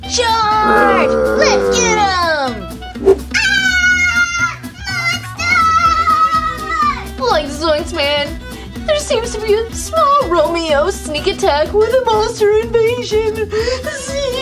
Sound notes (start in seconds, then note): 3.5 screaming